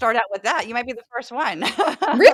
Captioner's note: laugh